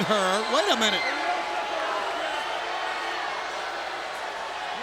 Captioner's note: crowd booing